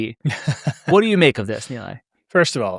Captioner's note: chuckles